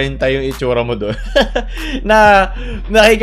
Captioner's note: laughs